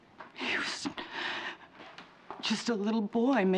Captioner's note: sobs